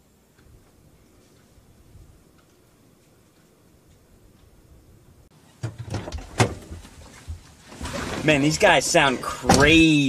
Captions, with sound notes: [door opening] [door closing] Man, these guys sound crazy.